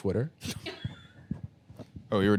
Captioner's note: laugh